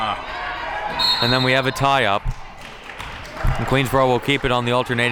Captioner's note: whistle blows